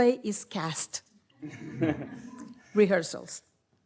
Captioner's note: audience laughs